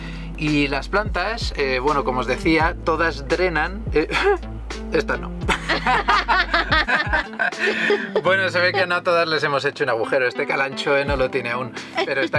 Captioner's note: laughs